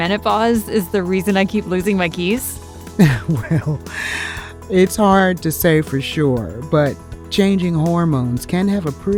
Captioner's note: laughs